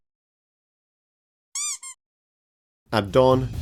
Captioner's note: cute toy noise